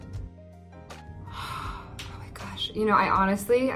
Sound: gasp

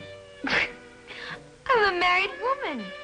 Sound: giggles

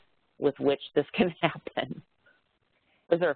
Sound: laughs

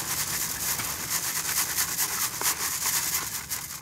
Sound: shaking wood chips sound

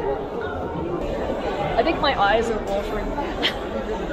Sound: laughing

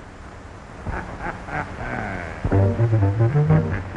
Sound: ghoul laughing

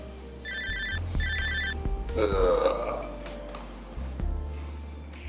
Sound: Brandon chuckles; Brandon groans

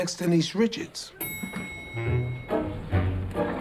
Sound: elevator bell dings

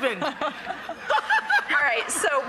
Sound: laughing

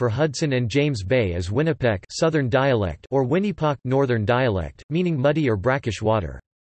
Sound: southern dialect

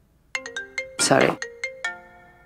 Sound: phone ringing

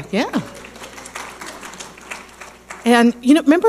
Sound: audience applauding

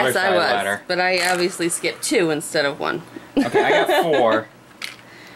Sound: laughs

